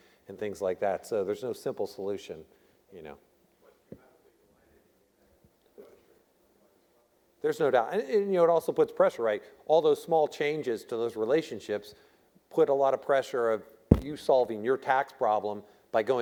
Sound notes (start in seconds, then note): none